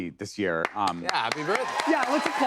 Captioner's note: cheers and applause